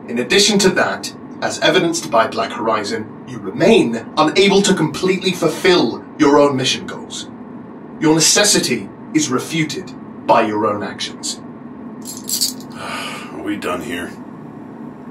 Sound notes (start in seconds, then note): 12.0 cuffs rattle